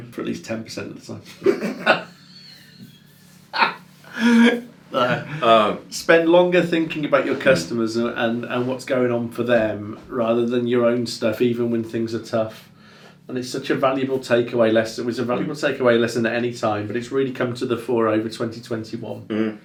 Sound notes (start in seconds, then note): 1.2 both laughing